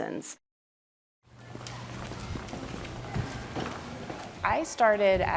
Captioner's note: footsteps tapping